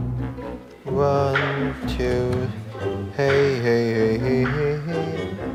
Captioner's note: humming